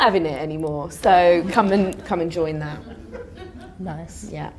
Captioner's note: audience laughter